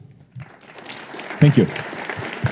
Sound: applause

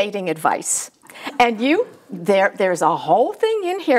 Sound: audience laughs

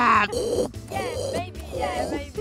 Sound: loud gasps; snorting

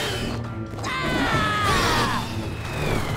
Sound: screaming

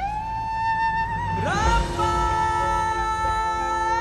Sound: emotional vocalising

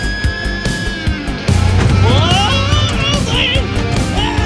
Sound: exciting music; shouting; exciting music

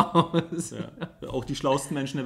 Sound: laughs

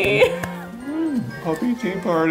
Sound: clapping

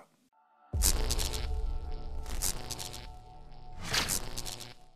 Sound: electricity zapping

